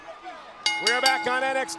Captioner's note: bell ringing